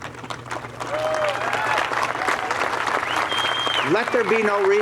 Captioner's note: cheers and applause